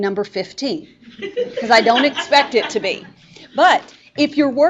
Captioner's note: students laughing